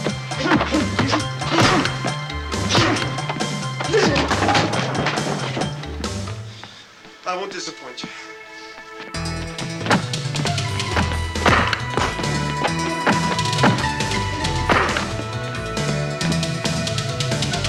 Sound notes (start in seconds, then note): 0.0 men grunting; 0.0 kicks and punches thudding; 9.2 kicks thudding; 10.8 men grunting